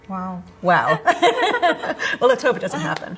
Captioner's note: laughs